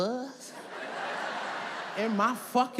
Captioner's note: audience laughs